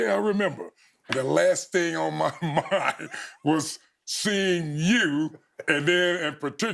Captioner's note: chuckling